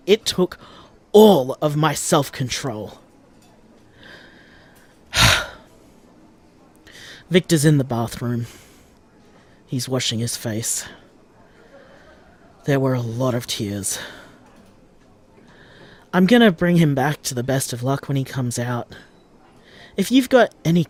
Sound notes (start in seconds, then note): 5.1 sigh